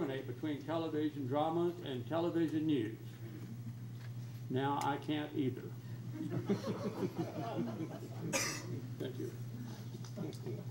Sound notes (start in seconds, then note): 6.2 crowd laughs